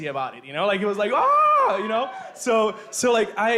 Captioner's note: cheering from crowd